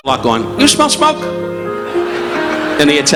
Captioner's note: audience laughing